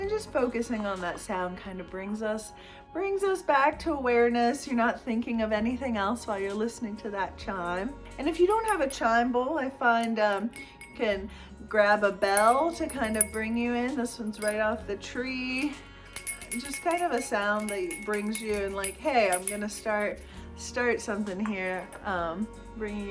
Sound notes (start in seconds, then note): 12.3 bell rings; 16.1 bell rings